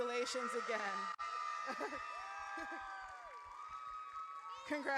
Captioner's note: audience cheers